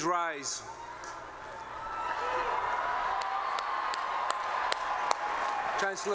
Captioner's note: applause